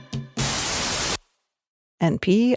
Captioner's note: energetic music; radio channel scratches